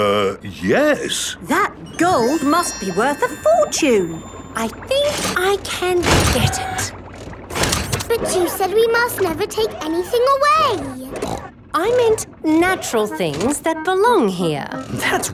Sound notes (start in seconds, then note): 9.5 snorts